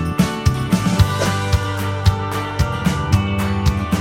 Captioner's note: whoosh